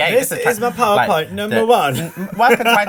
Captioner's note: laughs